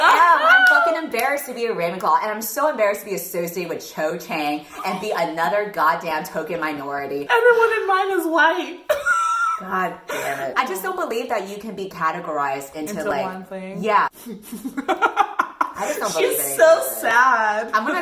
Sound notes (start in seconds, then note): 0.0 laughing; 8.1 laughs